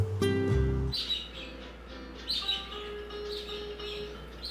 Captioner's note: birds chirping